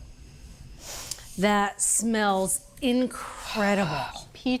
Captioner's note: sniffs